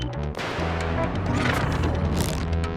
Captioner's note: sci-fi music; explosion